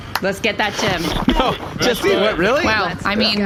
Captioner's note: claps